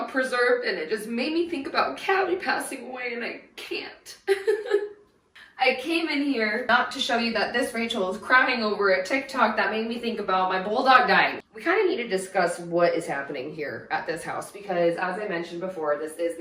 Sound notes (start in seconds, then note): 4.2 cries